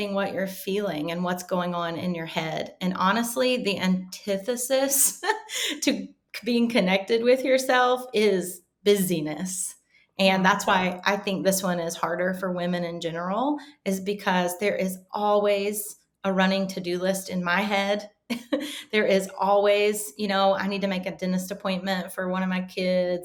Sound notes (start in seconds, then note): 5.3 chuckling; 17.8 chuckling